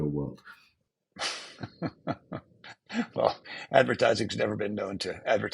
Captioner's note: chuckles